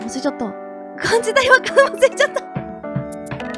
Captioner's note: laughs